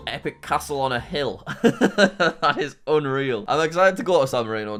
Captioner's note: laughing